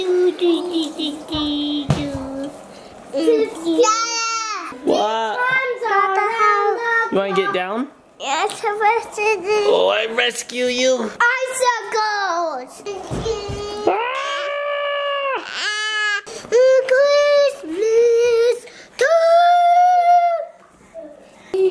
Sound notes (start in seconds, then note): 0.1 singing tune; 13.6 yells playfully; 13.8 imitates yell